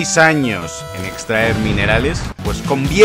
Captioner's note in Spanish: Explosión